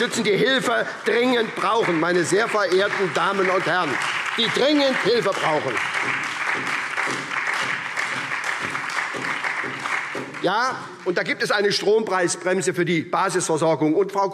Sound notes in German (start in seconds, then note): 2.1 Beifall SPD, BÜNDNIS 90/DIE GRÜNEN und Freie Demokraten